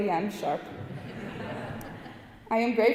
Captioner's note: audience laughing